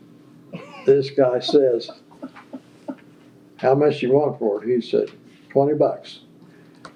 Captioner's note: laughter